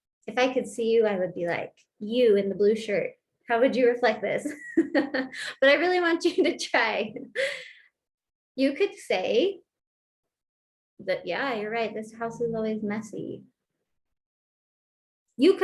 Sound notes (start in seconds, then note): 4.4 laughter